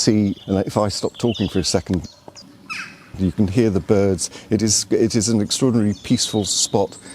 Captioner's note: bird song